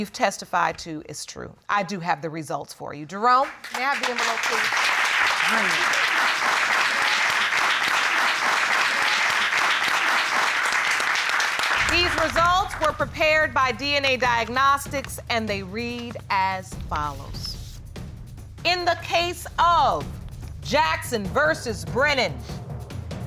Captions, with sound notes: what you've testified to is true. I do have the results for you. Jerome, can I have the envelope, please? [audience applauding] These results were prepared by DNA Diagnostics and they read as follows. In the case of Jackson v. Brennan...